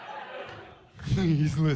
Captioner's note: chuckles